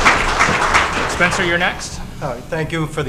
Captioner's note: applause